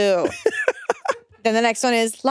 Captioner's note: laughs